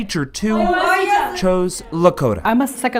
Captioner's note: classroom speaks Lakota